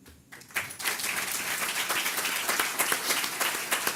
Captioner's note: audience clapping